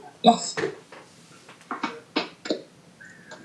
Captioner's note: whistles for dog